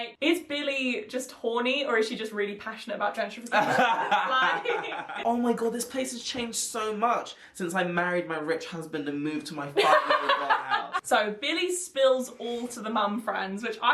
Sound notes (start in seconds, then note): 9.8 laughing